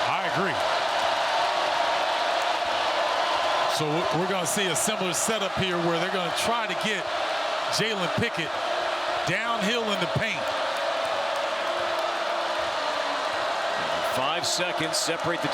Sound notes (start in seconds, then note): 7.8 cheers and applause